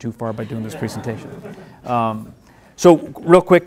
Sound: laughing

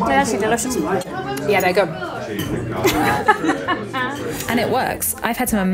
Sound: laughs

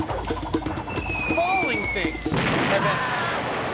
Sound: <i> object whistling</i>; <i> explosion and scream</i>

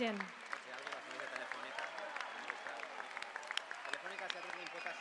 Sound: applause

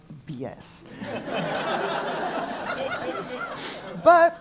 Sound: laugh

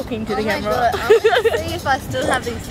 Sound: laughs

